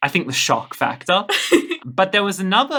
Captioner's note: laughing